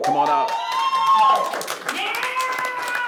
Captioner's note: audience cheers